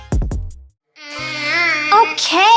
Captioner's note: vocalizes